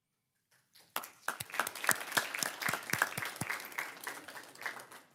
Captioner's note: everyone claps